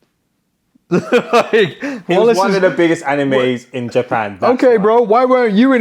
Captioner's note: laughs